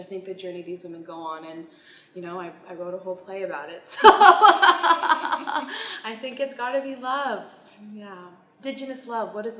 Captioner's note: laughs